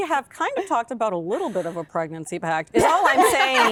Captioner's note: laughter